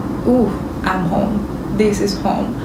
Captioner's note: Spanish